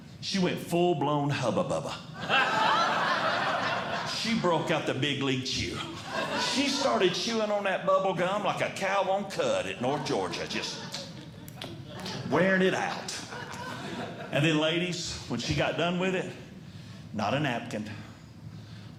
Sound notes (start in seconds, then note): 2.2 audience Laughing; 11.0 chewing Sounds